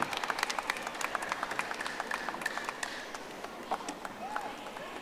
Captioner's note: audience applauding